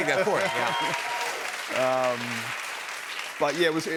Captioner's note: cheers and applause